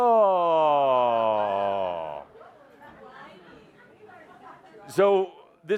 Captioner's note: in a whining tone